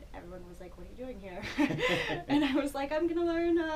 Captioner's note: laughing